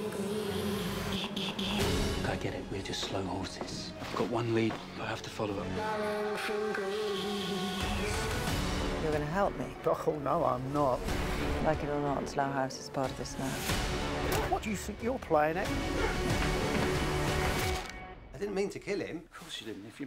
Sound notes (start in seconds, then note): 15.7 grunts, groans